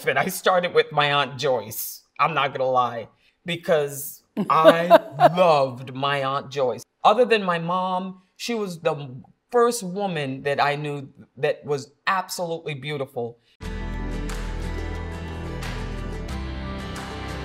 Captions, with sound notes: And I started with my Aunt Joyce. I'm not going to lie, because-- [CHUCKLE] I loved my Aunt Joyce. Other than my mom, she was the first woman that I knew that was absolutely beautiful.